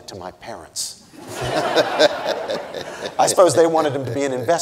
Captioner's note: audience laughing